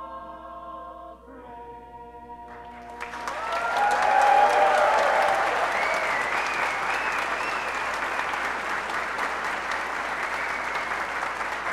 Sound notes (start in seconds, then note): 2.6 applause